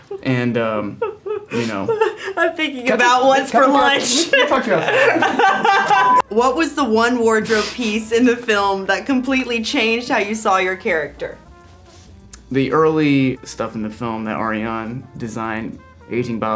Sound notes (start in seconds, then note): 4.7 Elle laughing